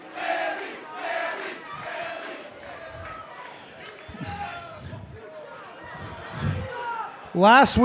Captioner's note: fans chanting